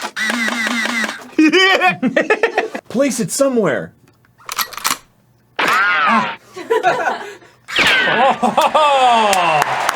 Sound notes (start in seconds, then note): 7.7 pew